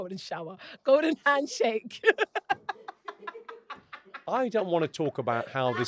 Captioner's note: laughs